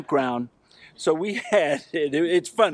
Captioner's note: laughs